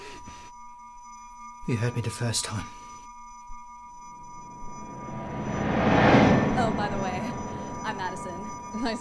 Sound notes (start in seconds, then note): 3.3 high-pitched tone ringing; 5.8 memory image whooshes